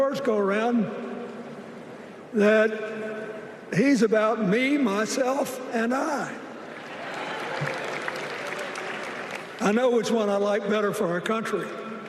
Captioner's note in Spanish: Aplausos